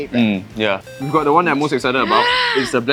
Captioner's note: gasps